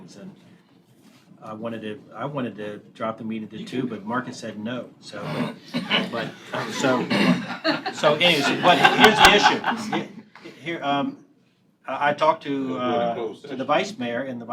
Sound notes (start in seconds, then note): 5.7 laughter